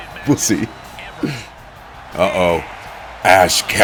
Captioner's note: laugh